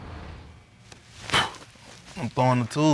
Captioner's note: blows